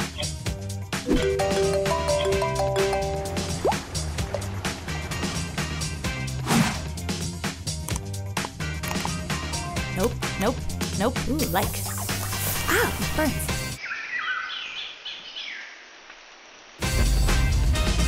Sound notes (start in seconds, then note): 1.3 cell phone rings; 6.8 notebook swooshes; 13.7 jungle animal noises